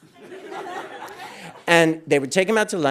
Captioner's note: audience laughing